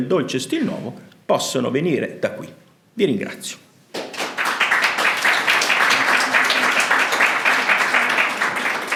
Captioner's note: Applauso